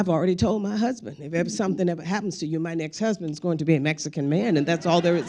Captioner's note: crowd laughing